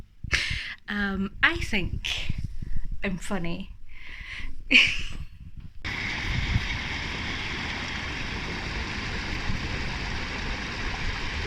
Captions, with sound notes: [Breathless, laughing] Um. I think I'm funny. [Loud running water]